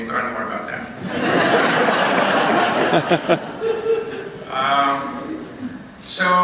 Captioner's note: laughter